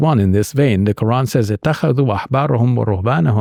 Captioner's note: speaking in Arabic